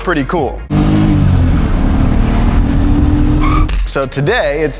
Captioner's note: car engine revving